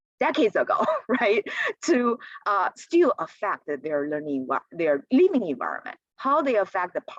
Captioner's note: laughter